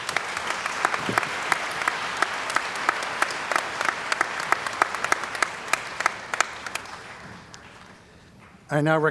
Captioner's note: applause